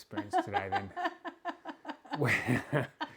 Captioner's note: laughing